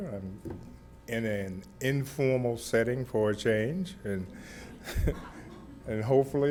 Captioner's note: laughs